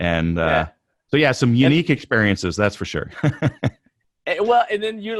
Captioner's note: laughs